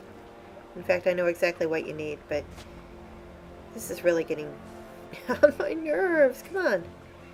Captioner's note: laughing pathetically